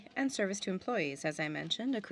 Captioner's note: speaking French